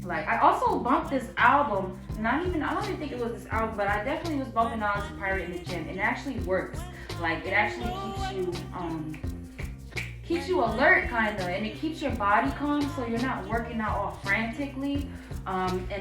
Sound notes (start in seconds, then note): 8.4 snaps fingers